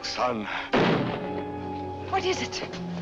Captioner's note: gunshot